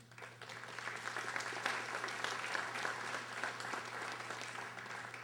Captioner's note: audience applauding